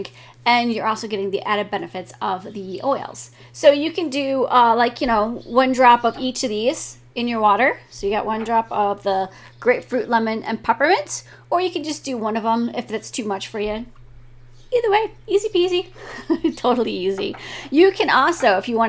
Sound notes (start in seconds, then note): 15.9 laughing